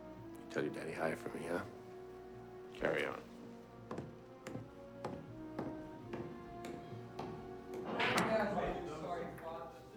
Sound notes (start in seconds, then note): 4.1 receding footsteps; 8.0 chattering